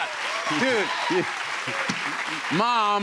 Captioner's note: applause